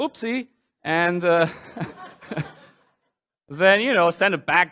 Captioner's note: laughter